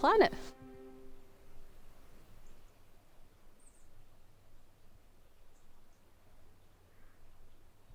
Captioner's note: birds chirping